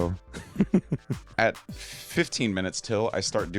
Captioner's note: chuckling